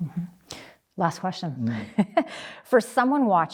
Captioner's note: chuckles